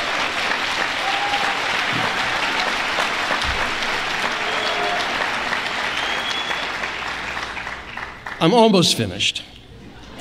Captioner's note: applause